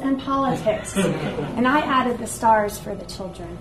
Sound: audience laughs

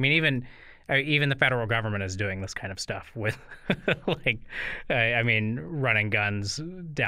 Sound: chuckle

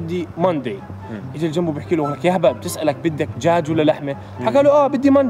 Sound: Arabic

